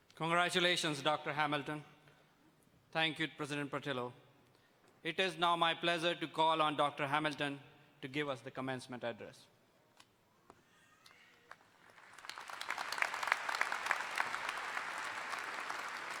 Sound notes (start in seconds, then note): 11.4 all applauding